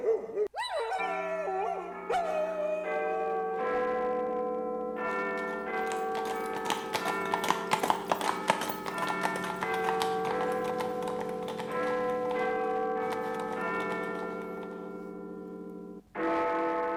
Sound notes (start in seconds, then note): 0.0 dog yelping; 4.3 chiming clock; 5.7 horse racing past, outside